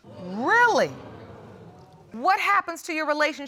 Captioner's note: audience exclaims in shock